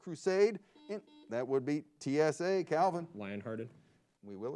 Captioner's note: buzzer beeps